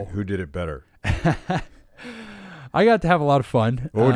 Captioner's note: laughs